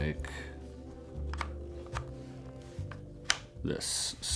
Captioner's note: buttons clicking